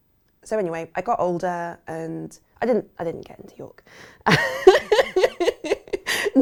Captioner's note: laughs